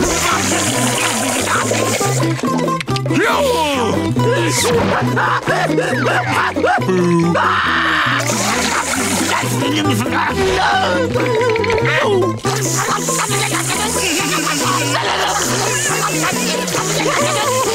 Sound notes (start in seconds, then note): 4.3 screaming; 9.9 screaming